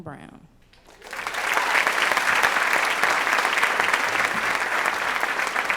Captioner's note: applause